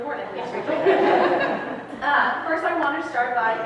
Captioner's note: audience laughs